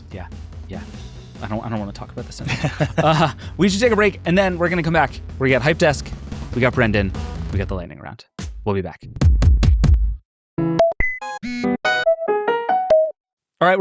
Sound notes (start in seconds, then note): 2.4 participants laughing; 10.6 upbeat music; 10.7 electronic music